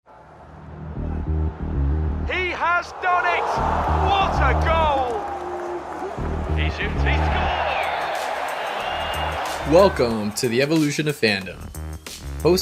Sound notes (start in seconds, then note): 0.6 exciting music; 8.3 crowd cheering